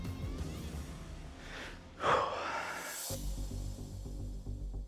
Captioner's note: exhales heavily